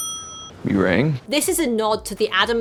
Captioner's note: bell dings